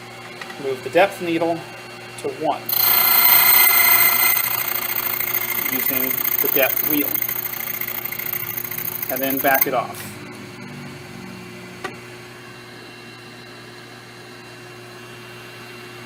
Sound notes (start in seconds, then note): 2.7 metallic grinding noise